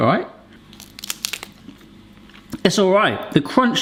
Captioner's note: crunches samosa